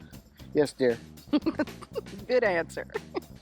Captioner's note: giggles